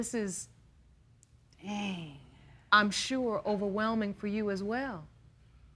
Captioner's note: sighs